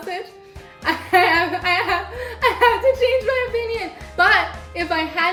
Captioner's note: chuckles